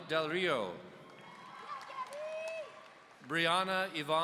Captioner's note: audience cheering